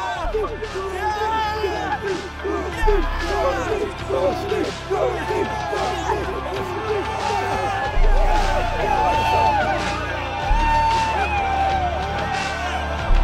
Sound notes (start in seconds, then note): 0.0 crowd cheers; 0.2 triumphant music; 3.4 crowd chants; 6.7 triumphant music continues